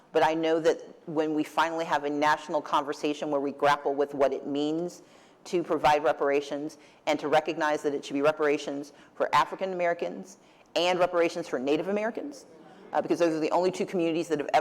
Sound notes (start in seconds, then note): none